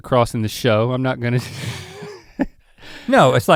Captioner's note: chuckles